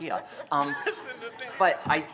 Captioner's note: laughter